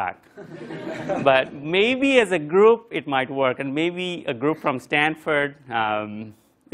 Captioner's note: laugh